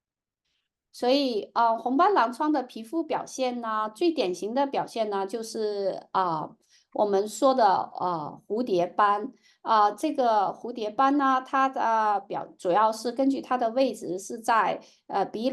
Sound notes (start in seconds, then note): 0.6 speaking chinese